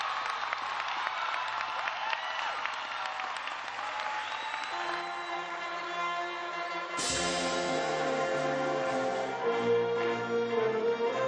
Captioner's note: cheers and applause